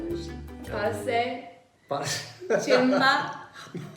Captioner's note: laughs